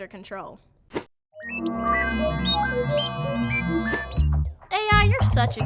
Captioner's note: electronic beeping